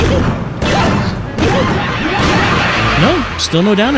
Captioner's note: overlapping crazed laughter